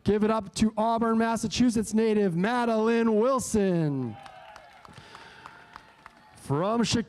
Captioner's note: cheering